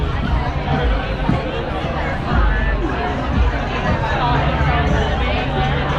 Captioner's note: restaurant patrons chatting